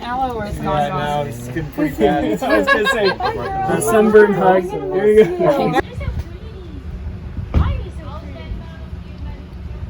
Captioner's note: exchanging goodbyes